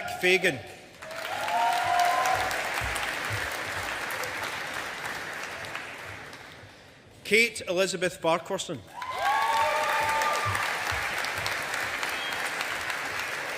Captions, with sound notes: Jack Fagan. (AUDIENCE APPLAUDING) Kate Elizabeth Farquharson. (AUDIENCE APPLAUDING)